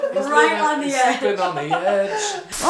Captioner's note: laughing; laughter